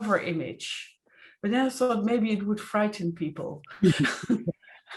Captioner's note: chuckles